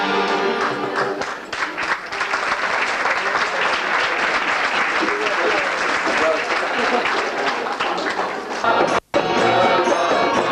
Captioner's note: applause